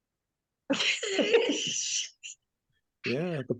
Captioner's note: laughing